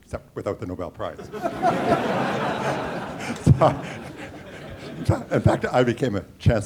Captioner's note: laughter